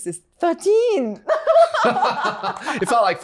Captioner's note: laughing